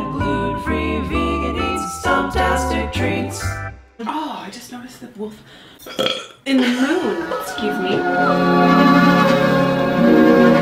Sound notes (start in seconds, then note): 6.2 burp; 7.1 chill music